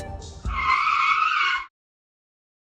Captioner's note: car brakes abruptly